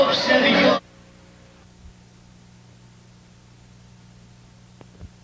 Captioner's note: ♫ Greek Wedding Music; white noise